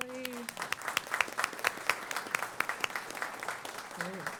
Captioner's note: applause